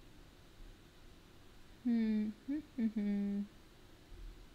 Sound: humming

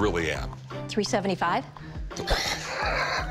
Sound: laughs

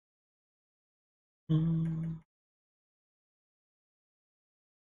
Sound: hums

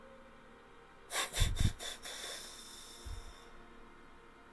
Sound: exhales

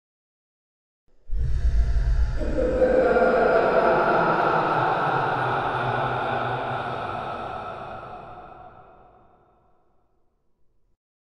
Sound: manic laughter

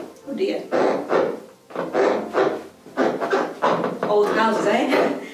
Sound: floorboard creaking

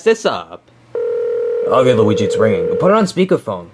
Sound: device ringing

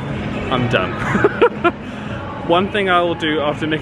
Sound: laughs

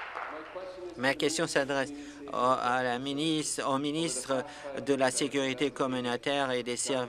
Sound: applause

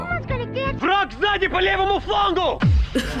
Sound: voice-over speaking Russian; snickers

